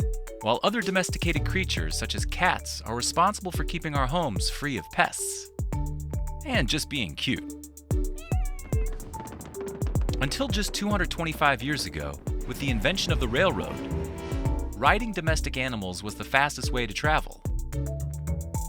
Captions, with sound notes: While other domesticated creatures such as cats are responsible for keeping our homes free of pests, and just being cute. (cat meows) (hoofbeats thumping) Until just 225 years ago, with the invention of the railroad, (train horn blares) riding domestic animals was the fastest way to travel.